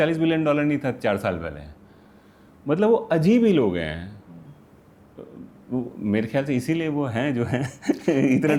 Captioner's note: laughs